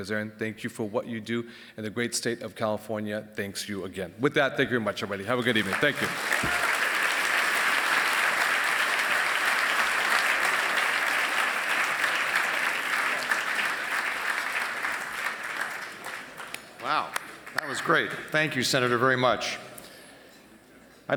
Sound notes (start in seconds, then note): 5.3 applause